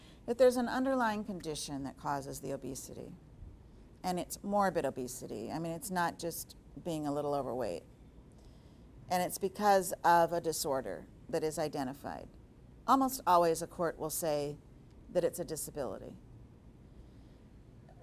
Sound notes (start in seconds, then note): none